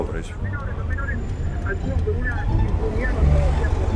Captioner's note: reporter on radio